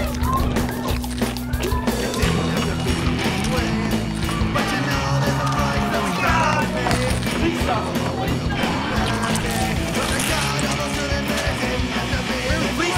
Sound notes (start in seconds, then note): 0.8 flesh squelching; 8.4 flesh squelching